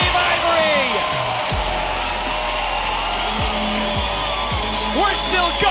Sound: cheering

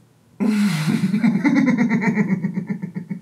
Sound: laughs

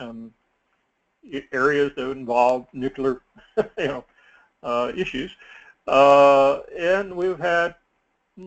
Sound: laugh

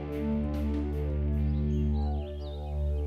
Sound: birds chirping

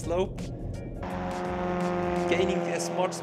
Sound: plane engine roaring

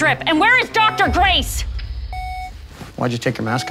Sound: beeping

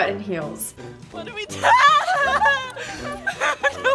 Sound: yelping

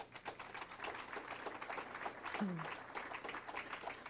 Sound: crowd applauding

